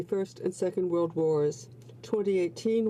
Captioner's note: speaking French